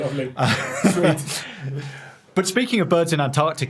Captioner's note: chuckling